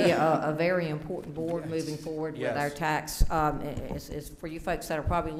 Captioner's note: laughing